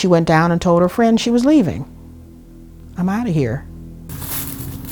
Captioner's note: bush rustling